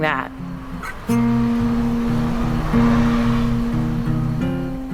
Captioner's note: car engine revving